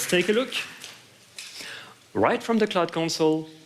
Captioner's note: applause